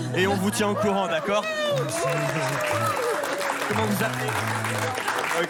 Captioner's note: applause